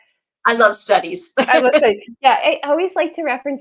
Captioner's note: laughs